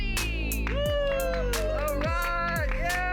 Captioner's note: cheering